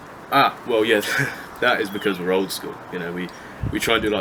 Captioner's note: chuckles